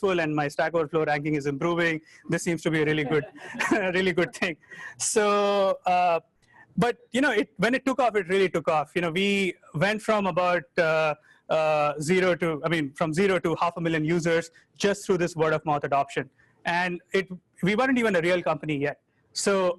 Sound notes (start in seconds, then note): 2.8 chuckles; 2.9 audience laughing